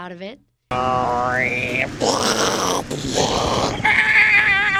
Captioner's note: crashing and screaming sounds, laughter